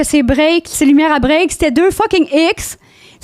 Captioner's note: in french